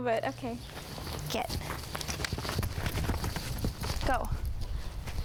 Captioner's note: clicks teeth